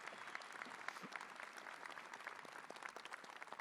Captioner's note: applause